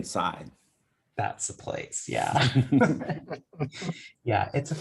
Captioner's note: laughs